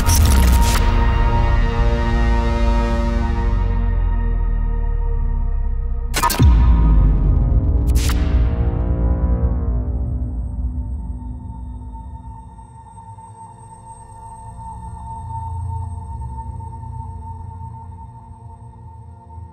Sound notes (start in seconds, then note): 0.0 glitching sounds; 0.1 music fades; 6.1 glitching sounds; 14.4 quiet ambient music